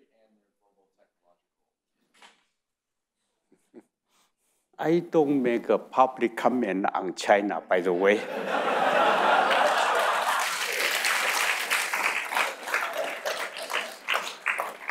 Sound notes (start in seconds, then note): 3.7 chuckles; 7.9 audience laughing; 8.7 audience applauding